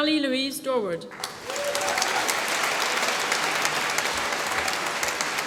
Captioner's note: applause